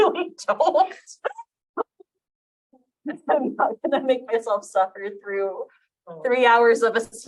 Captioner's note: chuckles